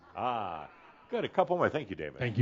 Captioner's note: some laughter